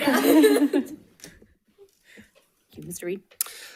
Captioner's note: people laughing